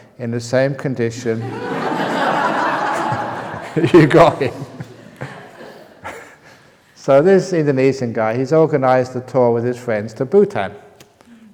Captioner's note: laughter